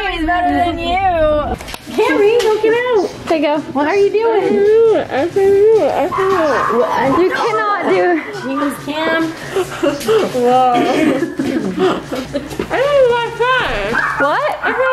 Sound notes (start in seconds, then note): 9.8 laughing